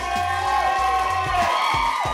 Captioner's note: cheers